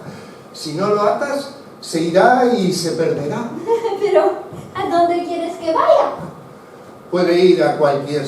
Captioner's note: laughs